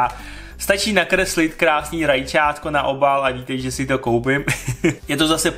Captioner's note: giggle